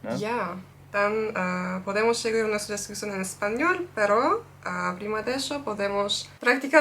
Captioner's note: spanish